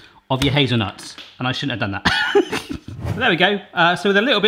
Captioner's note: laughs